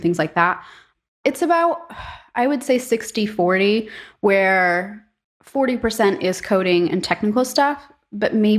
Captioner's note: sigh